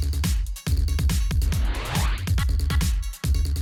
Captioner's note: whoosh